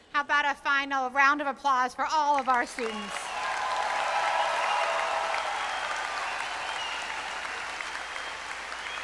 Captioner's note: applause